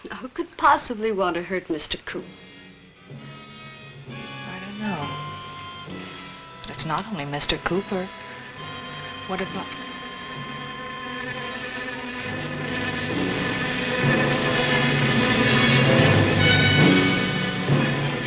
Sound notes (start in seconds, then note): 3.2 suspenseful music; 10.4 buzzing; 13.7 dramatic music